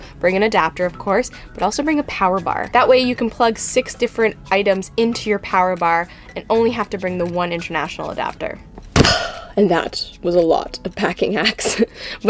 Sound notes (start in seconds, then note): 9.0 big sigh; 11.7 laughs